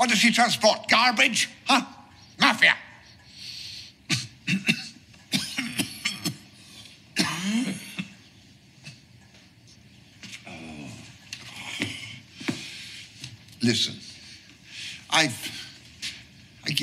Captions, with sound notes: What does she transport? Garbage? Huh? Mafia! (Rodolfo coughs) (Rodolfo groans) Listen, I've, I give you everything.